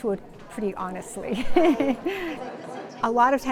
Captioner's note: laughs